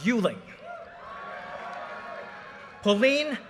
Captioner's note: audience cheers and applause